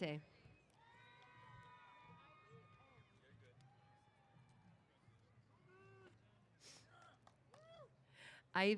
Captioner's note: cheers